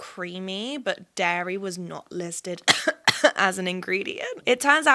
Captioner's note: coughs